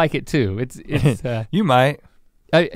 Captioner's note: chuckles